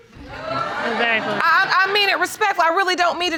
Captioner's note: audience laughing